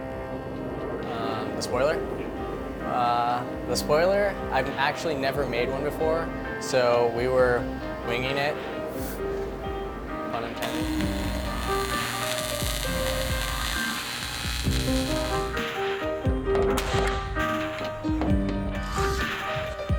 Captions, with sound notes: - The spoiler? The spoiler, I've actually never made one before, so we were winging it. Pun intended. (electricity buzzes) (dramatic music)